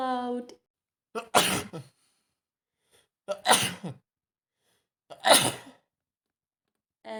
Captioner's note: triple sneeze